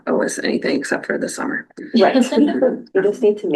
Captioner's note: laughter